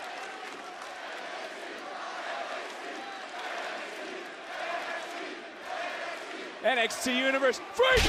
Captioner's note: crowd chants "nxt"